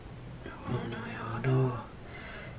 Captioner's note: foregin language